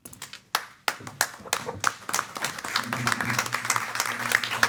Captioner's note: attendees clapping